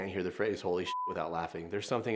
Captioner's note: beep